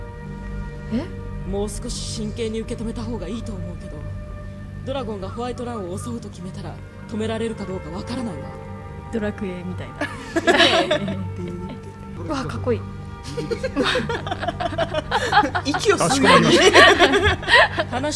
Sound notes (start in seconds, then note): 16.8 laugh